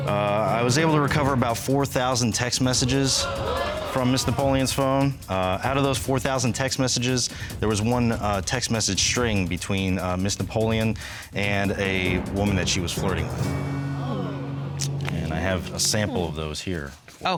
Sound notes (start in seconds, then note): 13.0 audience sighs